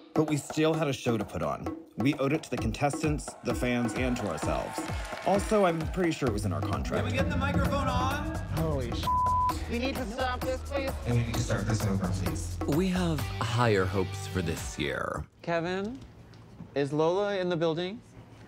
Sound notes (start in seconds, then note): 9.0 beep